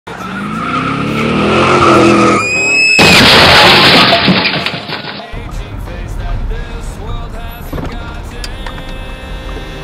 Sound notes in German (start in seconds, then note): 0.1 Reifen quietschen, Motor beschleunigt; 2.8 Knall